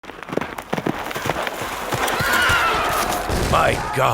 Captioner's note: horse galloping